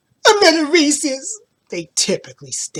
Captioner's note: imitates crying